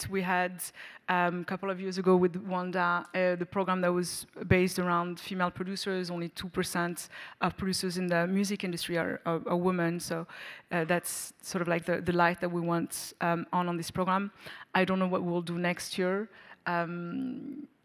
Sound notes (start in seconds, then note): none